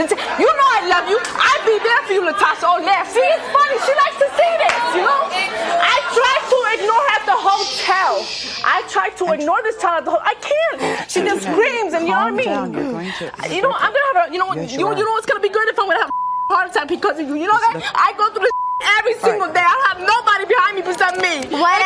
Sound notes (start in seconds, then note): 5.6 audience hollering